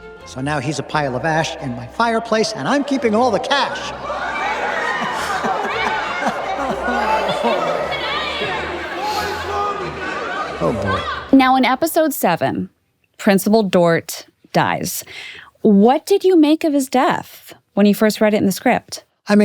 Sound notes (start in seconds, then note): 3.8 laughs; 4.2 crowd gasping; 4.2 crowd yelling